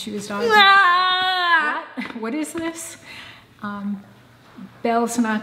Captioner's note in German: schreit